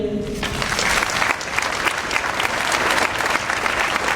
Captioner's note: audience applauds